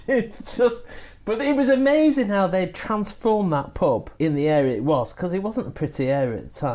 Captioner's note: laughs